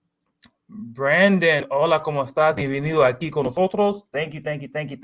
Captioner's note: speaking spanish